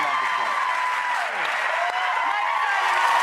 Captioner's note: audience cheers